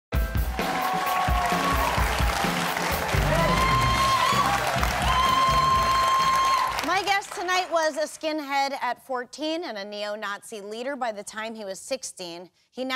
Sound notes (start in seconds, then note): 0.1 upbeat music; 2.7 audience applause